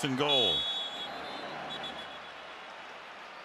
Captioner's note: whistle